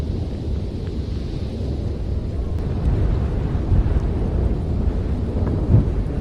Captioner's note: wind blowing